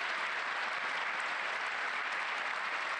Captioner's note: applause